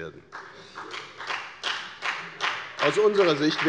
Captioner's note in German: Beifall bei der FDP